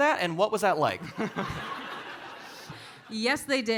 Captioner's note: audience laughing